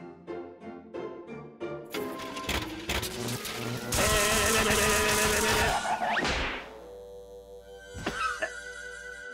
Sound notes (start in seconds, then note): 0.0 playful music; 3.6 electricity buzzes; 6.6 whimsical music